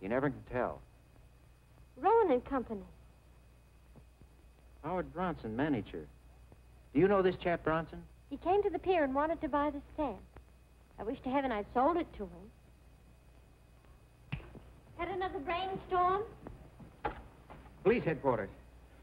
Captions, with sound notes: - You never can tell. - Rowan and Company. - Howard Bronson manager. Do you know this chap Bronson? - He came to the pier and Id h (clicks fingers) Had another brain storm? - Police headquarters.